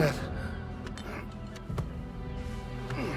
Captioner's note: sighs